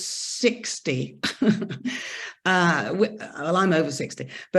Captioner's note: chuckles